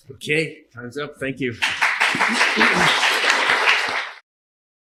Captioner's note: applause